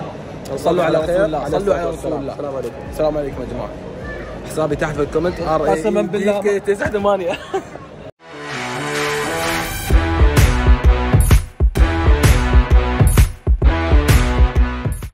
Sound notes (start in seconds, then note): 7.2 laughs; 8.2 outro music plays